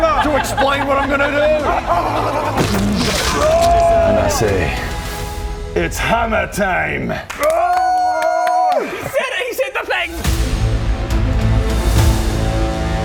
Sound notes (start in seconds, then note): 7.2 group celebration